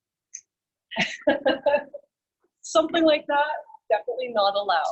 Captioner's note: laughs